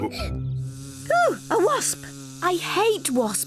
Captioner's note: gasps